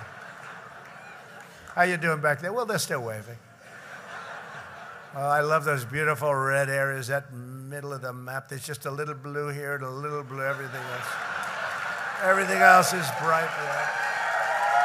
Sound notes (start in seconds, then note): 0.0 laughter; 3.5 laughter